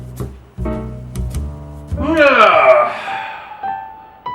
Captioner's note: sighs